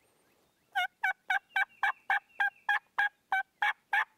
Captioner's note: turkey calling